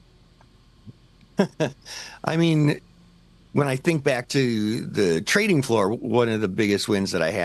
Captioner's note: chuckles